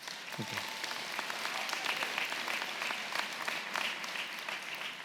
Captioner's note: audience clapping